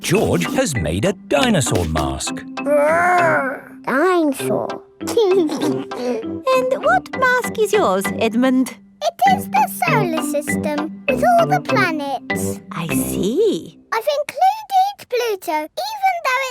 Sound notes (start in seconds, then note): 0.0 both laughing; 5.2 giggles